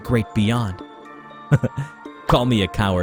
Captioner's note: chuckles